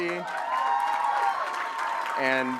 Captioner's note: applause